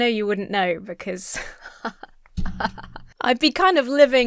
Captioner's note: laughs self-confidently